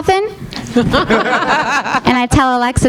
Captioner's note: audience laughing